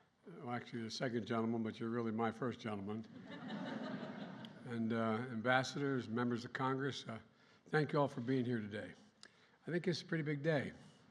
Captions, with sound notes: well, actually the Second Gentleman, but you're really my first gentleman. (Laughter.) And ambassadors, members of Congress -- thank you all for being here today. I think it's a pretty big day.